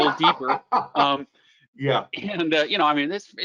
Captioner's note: laughs